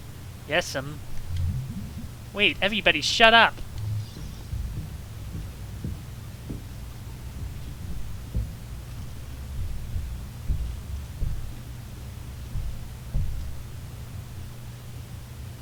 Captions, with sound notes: "Yes'm" "Wait everybody shut up" *door creak* *thumping noises*